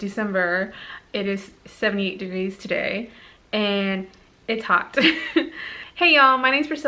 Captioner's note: giggles in sweaty awkwardness